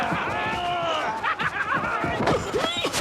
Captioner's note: chuckling